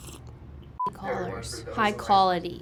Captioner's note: slurping; beeping